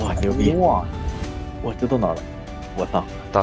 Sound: on the radio

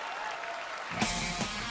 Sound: cheering, applause

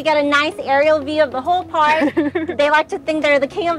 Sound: chuckles

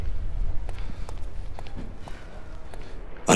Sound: footsteps

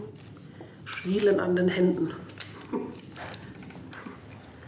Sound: she laughs softly

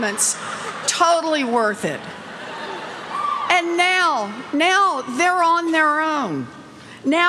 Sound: laughter

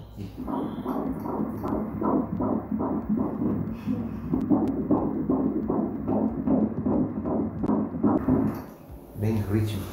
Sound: heart beating noises

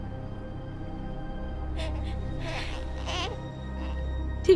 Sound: sobbing; baby crying

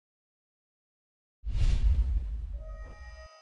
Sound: sound effect

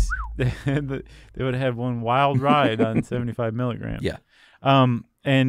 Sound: chuckles

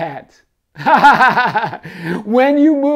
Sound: laughing

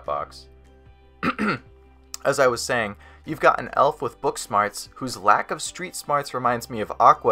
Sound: clear throat

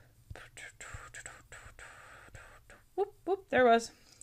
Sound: hums

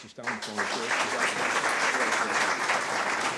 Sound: audience applause

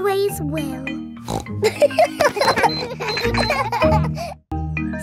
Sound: snorts; kids laughing

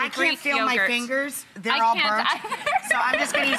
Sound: laughs

